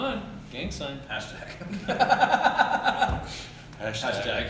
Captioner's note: laugh